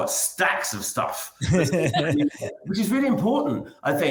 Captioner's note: laughs